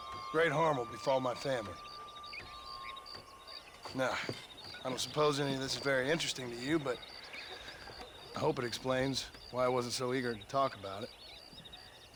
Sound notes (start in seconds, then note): none